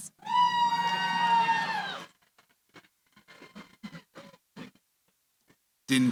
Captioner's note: cheering